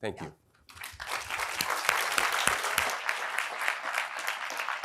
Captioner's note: applause